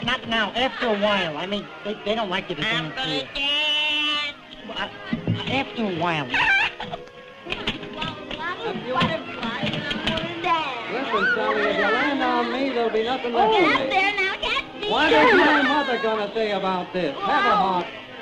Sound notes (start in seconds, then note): 7.4 chairs clatter